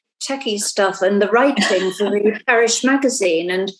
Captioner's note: laughing